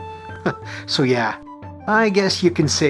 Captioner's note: chuckle